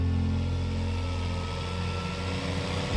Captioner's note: grader sounds